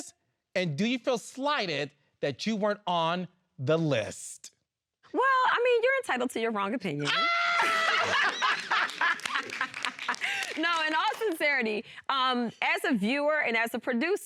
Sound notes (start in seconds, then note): 7.5 all laughing; 7.6 laughs heartily